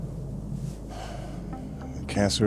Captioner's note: sighs